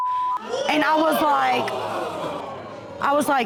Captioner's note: audience exclaiming